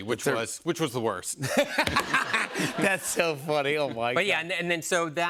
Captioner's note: laughter